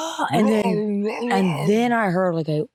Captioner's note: growling